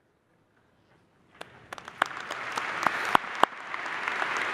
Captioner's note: applause